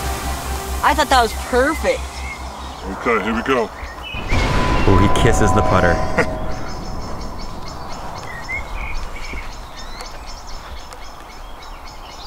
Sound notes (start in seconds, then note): 6.1 laughing; 7.1 birds chirping